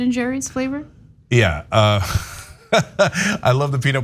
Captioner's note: laugh